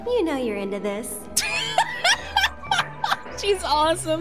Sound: laughter

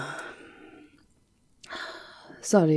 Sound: she lets out a frustrated sigh as the maid scurries away

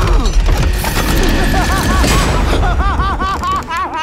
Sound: Hank laughing maniacally

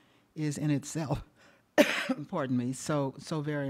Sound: coughs

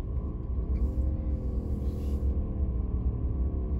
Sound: engine roaring

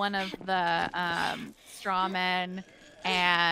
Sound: breathing heavily

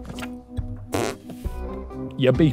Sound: raspberry blows

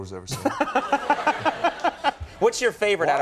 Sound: Conan laughing

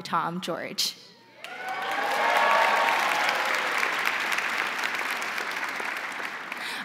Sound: crowd cheering; crowd applauding

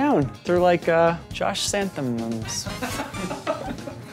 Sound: laughs

